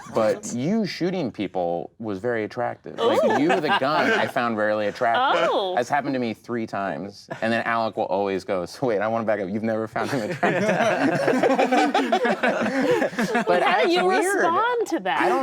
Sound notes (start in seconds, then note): 11.5 group laughing